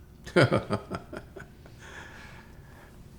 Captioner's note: laughs